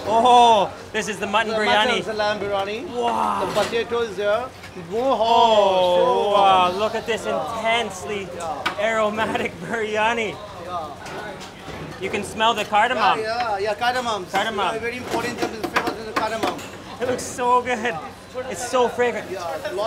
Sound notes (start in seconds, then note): 16.3 drowned out by banging